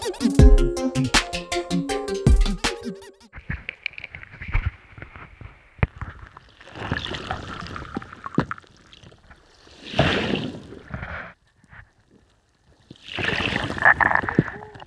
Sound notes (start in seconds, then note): 4.7 waves